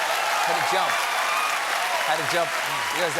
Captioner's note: cheers and applause